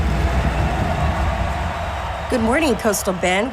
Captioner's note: audience cheering